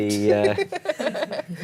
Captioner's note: laughter